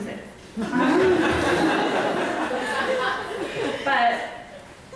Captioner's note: audience laughs